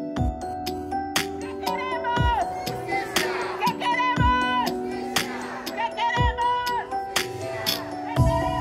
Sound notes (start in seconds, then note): 1.4 tenants yelling; 1.6 soft music